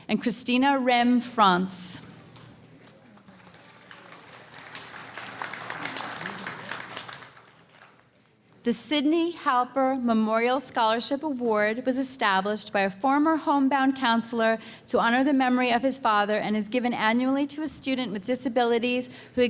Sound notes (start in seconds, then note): 2.9 audience applause